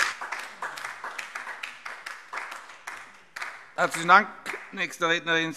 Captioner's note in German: Beifall DIE LINKE